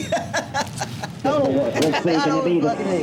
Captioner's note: laughs